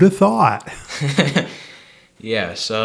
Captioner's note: laugh